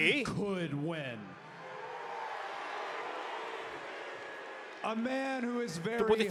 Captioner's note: applause